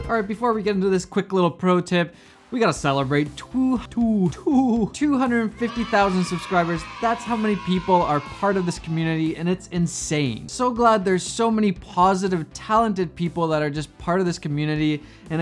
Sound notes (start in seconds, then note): 5.3 children cheering